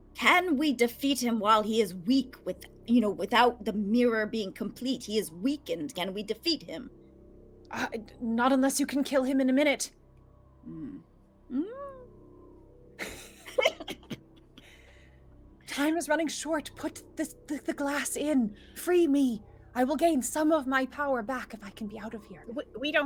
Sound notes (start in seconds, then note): 13.0 laughing